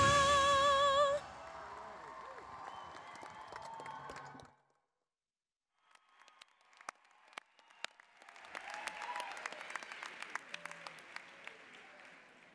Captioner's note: applause, cheering